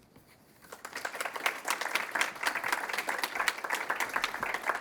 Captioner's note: applause